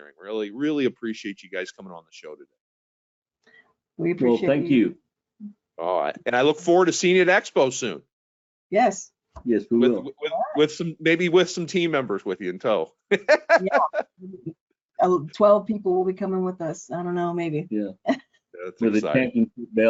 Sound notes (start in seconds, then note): 13.1 chuckling